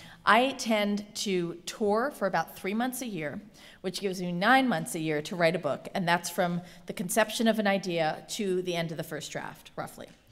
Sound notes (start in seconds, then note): none